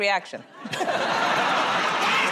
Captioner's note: laughter